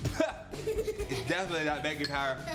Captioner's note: laughing